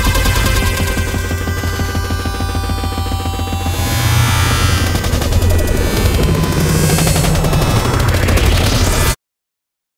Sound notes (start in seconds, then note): 0.1 music distorts; 2.6 horn blares; 3.6 distortion intensifies and buzzes